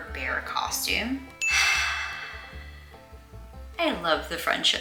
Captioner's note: exasperated sigh